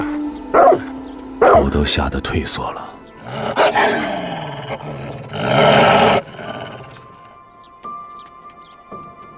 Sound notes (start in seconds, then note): 0.5 the barking of dog; 3.2 the roar of snow leopard; 7.3 soft music